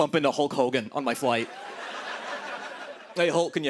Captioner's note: laughter